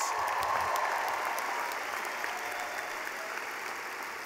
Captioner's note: cheering